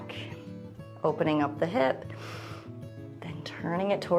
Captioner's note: inhales